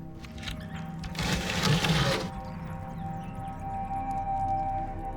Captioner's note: door scrapes